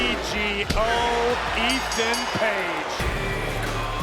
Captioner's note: bell dinging; upbeat music